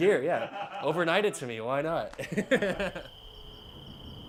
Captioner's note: laugh